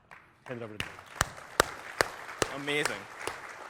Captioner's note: applause